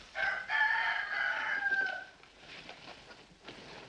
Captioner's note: rooster Crows